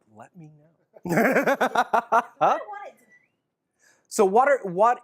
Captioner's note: laughs